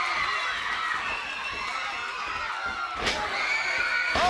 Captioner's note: crowd cheering